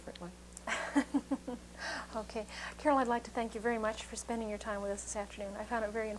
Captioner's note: laughter